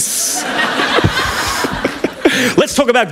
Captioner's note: laughter